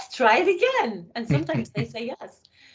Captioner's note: laughing